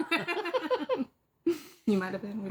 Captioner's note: children laughing